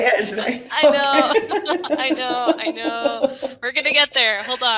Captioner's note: laughing